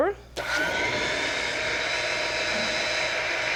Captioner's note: whirring